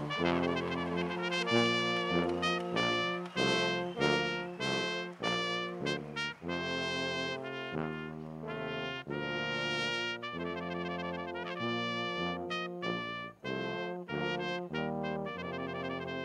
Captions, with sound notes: ADMINISTRATORS, AND BOARD OF TRUSTEES TO FOLLOW ME. [ CHEERS AND APPLAUSE ] [ RECESSIONAL MUSIC ]